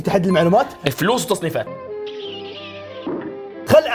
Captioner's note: smooches